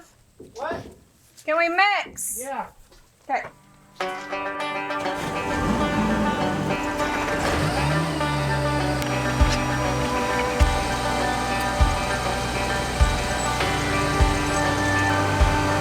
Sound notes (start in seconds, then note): 4.7 upbeat Music; 4.9 machinery in Background